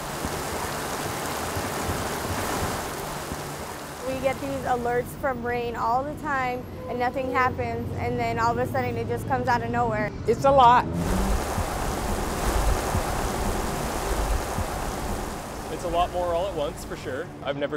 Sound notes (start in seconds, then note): 0.0 water rushing; 10.9 water rushing